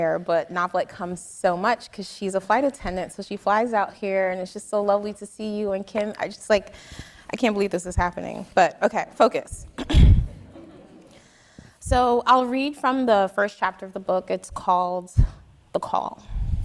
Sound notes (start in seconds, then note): 9.8 clears throat; 10.4 audience laughing